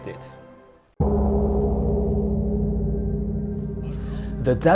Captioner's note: gong sound